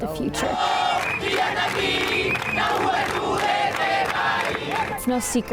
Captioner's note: chanting in foreign language